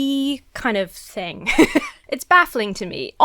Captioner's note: laughs